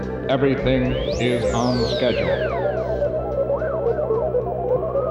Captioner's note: robotic Voice; mechanical thrumming